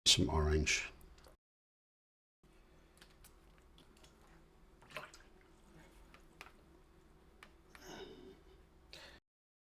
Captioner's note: silence